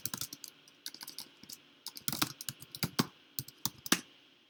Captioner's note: keyboard clicks